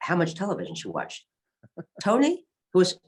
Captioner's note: laughs